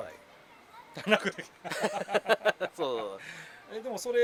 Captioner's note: laughs